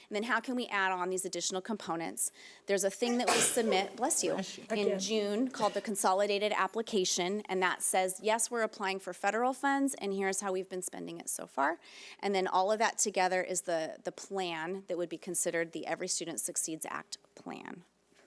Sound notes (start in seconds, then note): 3.1 panel member sneezing